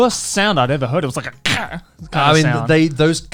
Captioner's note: imitating car